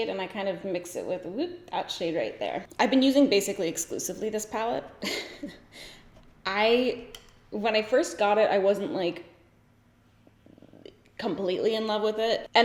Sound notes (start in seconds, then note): 5.0 giggles